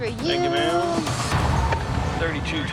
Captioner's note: beeping